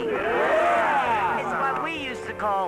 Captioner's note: cheering